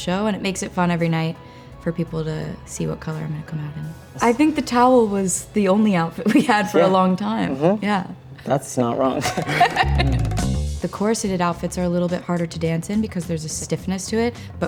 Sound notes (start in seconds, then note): 9.0 both laugh